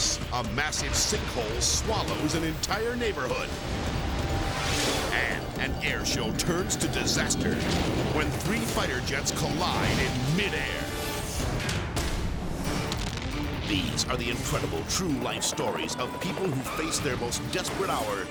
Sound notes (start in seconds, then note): 10.3 dramatic music; 11.7 bomb explodes